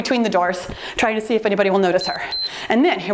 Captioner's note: timer beeps